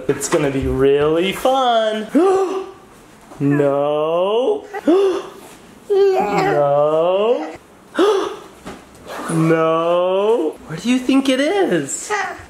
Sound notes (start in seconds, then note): 4.7 gasps; 7.9 gasps